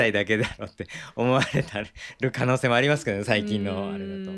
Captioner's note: laughs